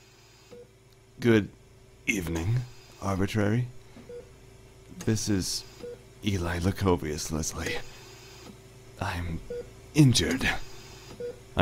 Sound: mechanical ambiance

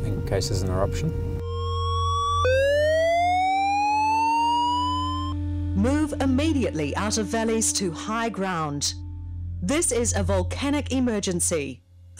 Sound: alarm sounds

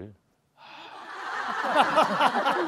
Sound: sighing

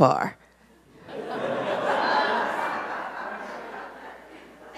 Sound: audience laughs

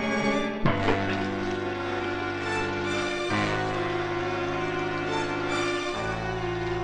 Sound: ominous music; water softly splashing

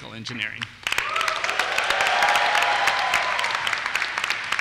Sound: applause

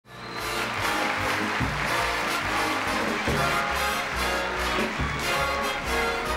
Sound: crowd cheering; upbeat music

